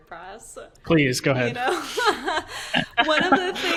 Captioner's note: laughing